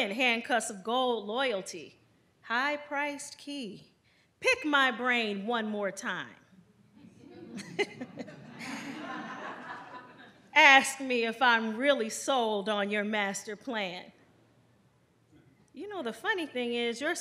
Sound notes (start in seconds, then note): 7.3 chuckles; 9.5 audience laughs